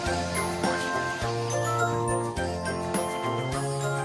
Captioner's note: none